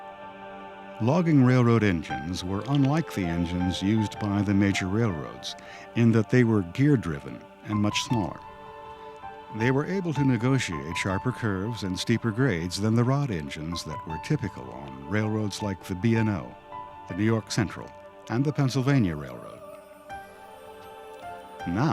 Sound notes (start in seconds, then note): 1.2 voiceover